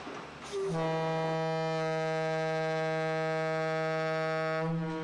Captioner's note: boat horn blares